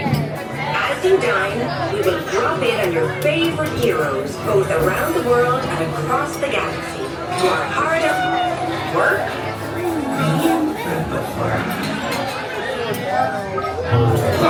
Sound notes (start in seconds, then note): 9.9 crowd chattering